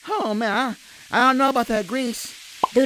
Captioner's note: grease sizzle and pop